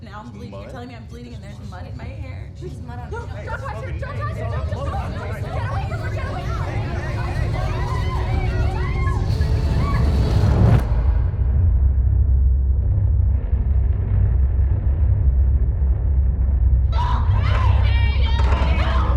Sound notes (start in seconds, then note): 7.2 violent rumble; 16.9 screaming